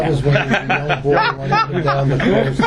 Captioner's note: background chatter; backround chatter